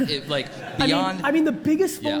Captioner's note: audience laughs